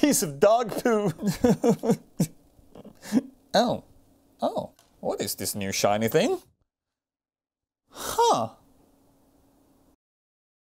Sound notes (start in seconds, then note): 0.6 sobs